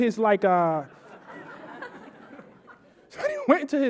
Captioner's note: audience laughing